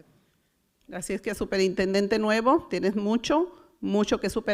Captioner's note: foreign language